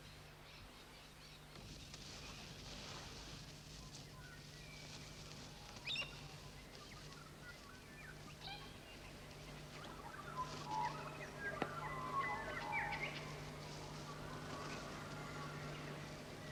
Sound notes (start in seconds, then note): 5.4 birds chirping